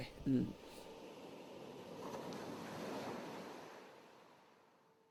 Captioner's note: waves lightly crashing